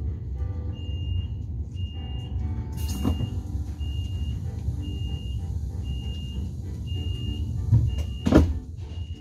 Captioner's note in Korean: 출입문 닫힘